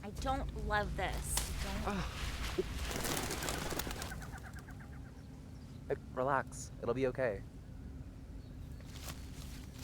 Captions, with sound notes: - I don't love this. I don't. [branch snaps] - Oh. [critters fluttering] Relax. It'll be okay.